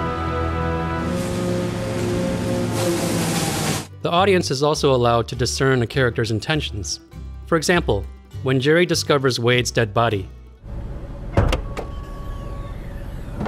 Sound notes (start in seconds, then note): 1.0 wood chipper grinds